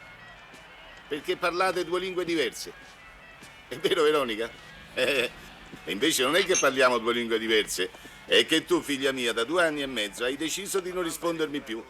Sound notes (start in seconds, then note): 3.6 laughs